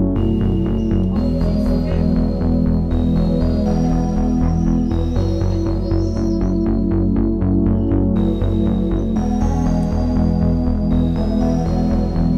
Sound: calm electronic music; bird sounds

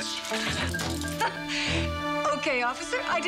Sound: chuckles

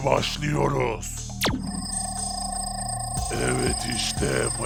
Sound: machine voice

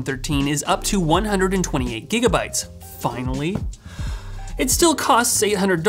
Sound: exhales sharply

